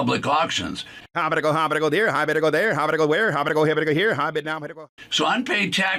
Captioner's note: auctioneer vocalizes rapidly